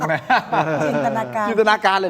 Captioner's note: laughs